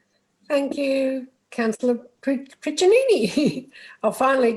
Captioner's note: chuckles